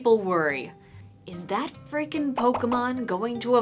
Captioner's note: popping sounds as Pokemon appear